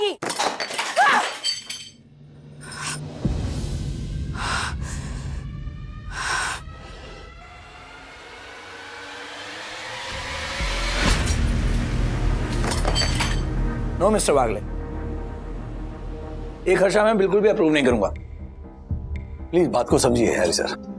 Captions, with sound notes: - [clanking] - Ugh! [deep breathing] [glass shattering] No, Mr. Wagle. I will not approve this expenditure. Please understand, sir.